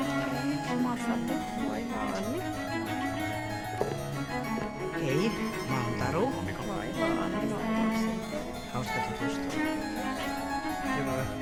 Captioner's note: speaking finnish